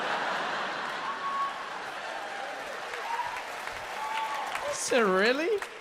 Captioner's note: audience laughs and applauds